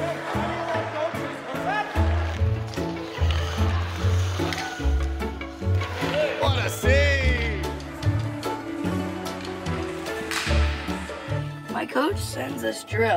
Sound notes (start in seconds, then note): 3.1 mixed shouts